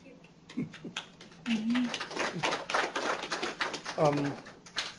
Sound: applause

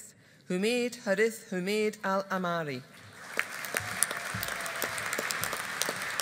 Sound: audience applauding

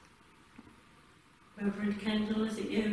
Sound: shoes clopping

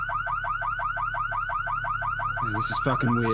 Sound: car alarm blaring

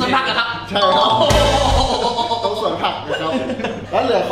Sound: laughs

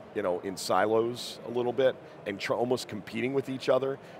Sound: none

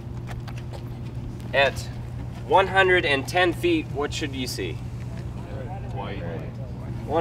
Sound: audience voices

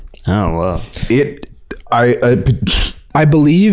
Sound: stammering

